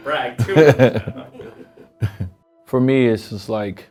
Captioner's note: Dwayne laughs